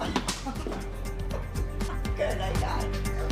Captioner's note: laughing